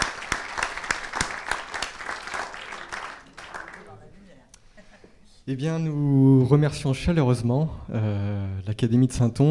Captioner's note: applause